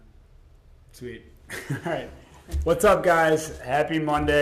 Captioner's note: laughs